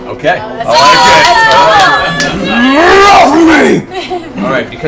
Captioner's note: roaring